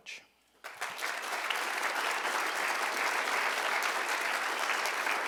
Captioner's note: applause